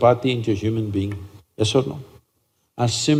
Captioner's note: none